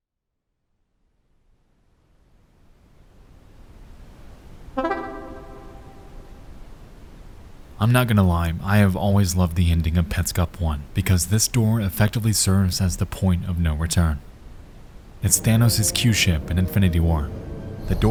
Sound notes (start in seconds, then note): 2.9 wind whistling; 4.8 bright tones